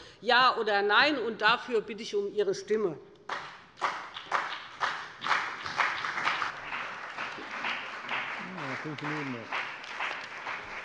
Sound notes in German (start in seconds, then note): 3.3 Beifall bei dem BÜNDNIS 90/DIE GRÜNEN und der CDU